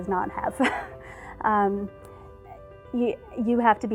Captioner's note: chuckle